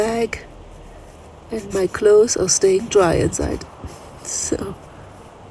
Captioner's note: laughs